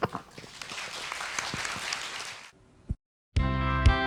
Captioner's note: audience applause